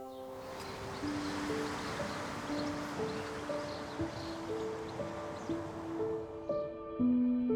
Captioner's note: gentle poignant music; traffic rumbling